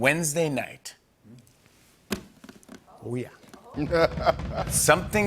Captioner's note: laughs